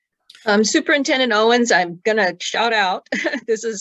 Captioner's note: laughs